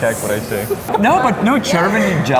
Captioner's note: laughing